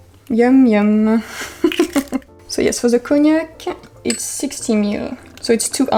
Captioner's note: laugh